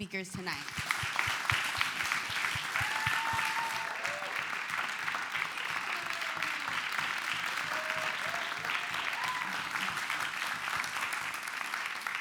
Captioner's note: clapping